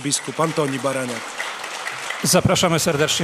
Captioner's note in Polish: oklaski